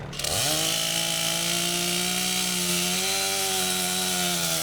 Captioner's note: chainsaw buzzing